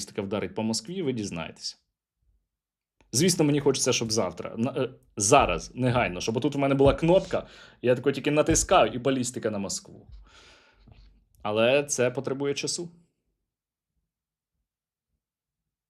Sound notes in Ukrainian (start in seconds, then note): 7.3 сопіння